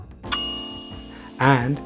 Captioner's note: bell dings